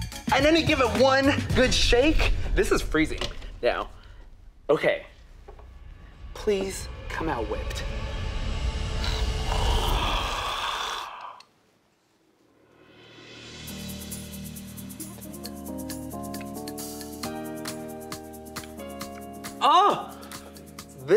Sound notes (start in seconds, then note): 9.0 gasps